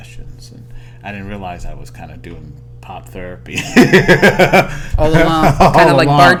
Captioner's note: laughter